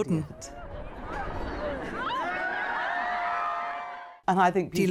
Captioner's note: crowd cheering